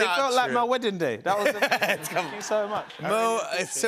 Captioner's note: laughs